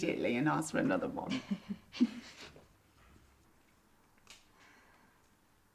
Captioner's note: Tilly chuckling